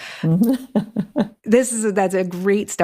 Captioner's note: laughs